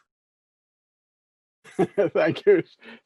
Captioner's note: laughs